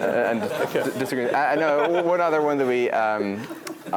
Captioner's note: laugh